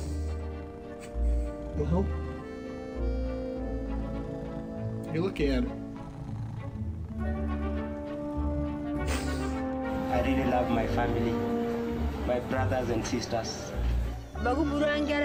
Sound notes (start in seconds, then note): 7.3 crying